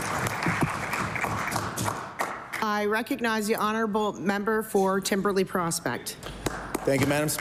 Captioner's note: applause